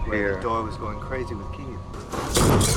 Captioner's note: door slamming; dramatic music